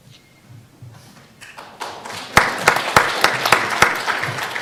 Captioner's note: audience applause